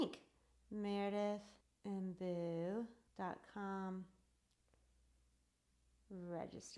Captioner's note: clicks